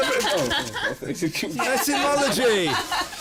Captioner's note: laughing